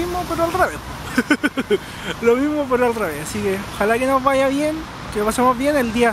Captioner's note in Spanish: risas